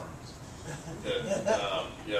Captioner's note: laugh